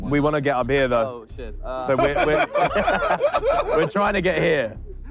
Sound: laughing

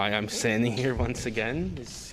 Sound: laughter

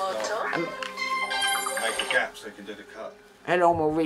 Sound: phone ringing

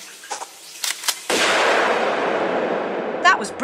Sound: bam

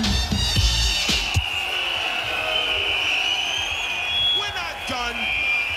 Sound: crowd screams and whistles

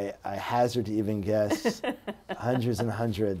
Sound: laughs

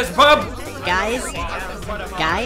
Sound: arguing; more arguing

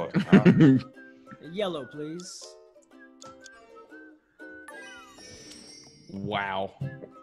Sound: laugh

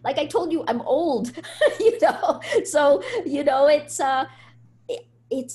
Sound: laughs

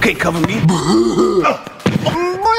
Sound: Jeffy mumbles

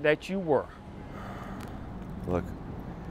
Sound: Jacobs sighs

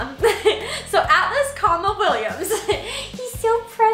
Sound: laughs

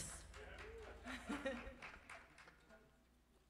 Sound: chuckles from band and audience

